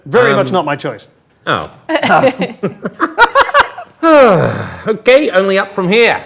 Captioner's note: group laughs